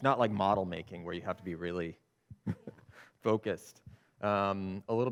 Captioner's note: chuckles